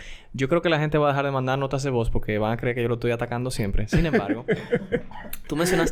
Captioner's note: laughs